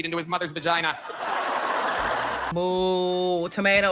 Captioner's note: audience laughing